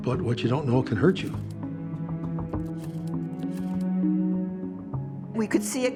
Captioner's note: camera shutter clicking